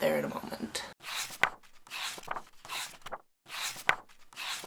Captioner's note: page turning sounds